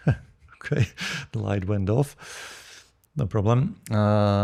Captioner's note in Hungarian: nevetés